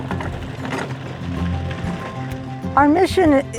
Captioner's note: carriage rolling